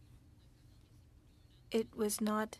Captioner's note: speaking French